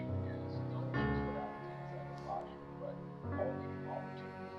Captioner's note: TV chatter continues; light music